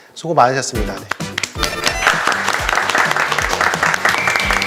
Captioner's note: clap, clap, clap, clap